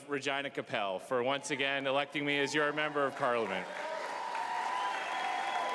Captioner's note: cheering